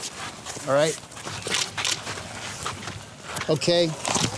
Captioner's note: camera clicks